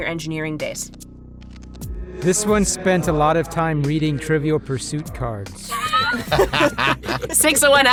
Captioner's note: laughs